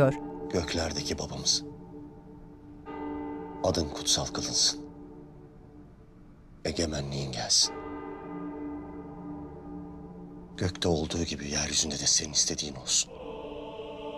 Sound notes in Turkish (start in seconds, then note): 8.1 Çan sesi